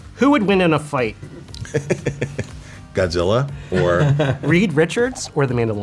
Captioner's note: laughing